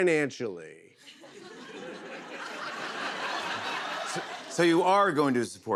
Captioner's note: laughter